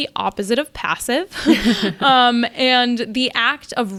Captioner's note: laughs